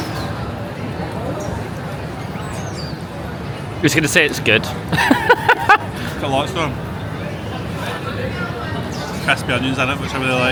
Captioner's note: laughs